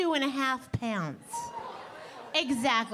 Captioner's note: audience exclaiming